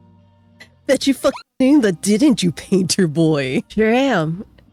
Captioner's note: hyucking